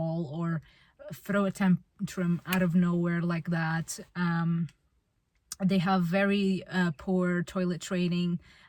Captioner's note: snaps fingers